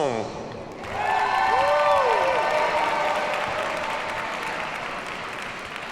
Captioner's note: audience cheers and applauds